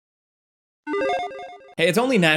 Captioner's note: electronic chiming